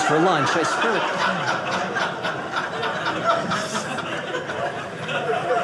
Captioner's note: audience laughing